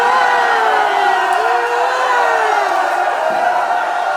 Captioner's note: crowd cheering